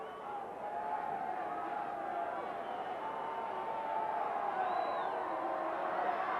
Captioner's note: audience cheering continues